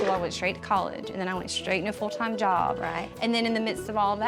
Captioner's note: none